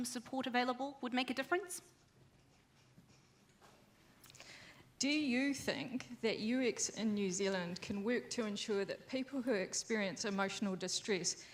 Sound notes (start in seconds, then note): none